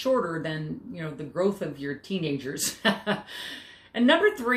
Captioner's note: chuckles